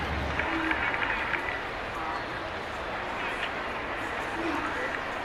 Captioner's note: applause